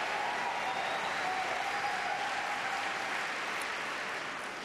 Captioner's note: applause